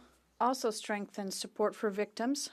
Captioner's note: speaking French